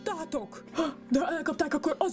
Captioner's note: gasp